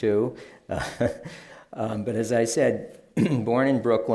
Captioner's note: laughs